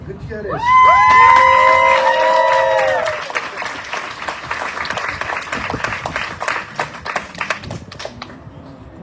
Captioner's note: audience cheering, applauding